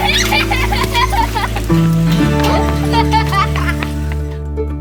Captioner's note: laughter